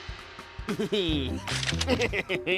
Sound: sinister laugh

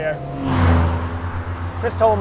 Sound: car roars

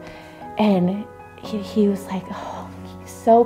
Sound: sighs

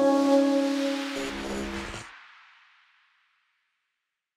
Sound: inspiring music; logo whooshing; logo buzzing

